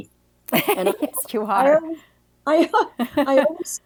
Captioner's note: laughs